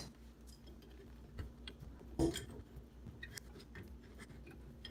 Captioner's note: metallic parts rustle